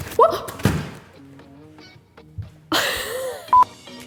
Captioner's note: lettuce thudding; yelps; laughs